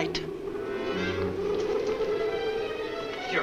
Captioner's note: muffled wind howls